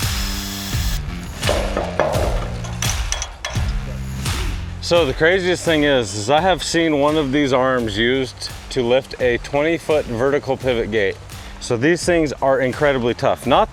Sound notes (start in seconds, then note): 0.0 drilling; 0.1 upbeat music; 1.0 metals clanking; 1.7 upbeat music